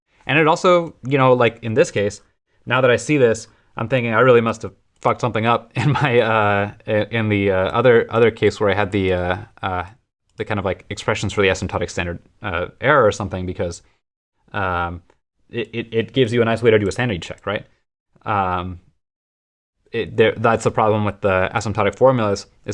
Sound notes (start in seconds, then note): 5.7 laughter